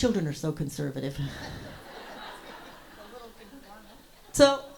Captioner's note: audience laughs